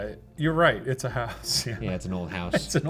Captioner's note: laughs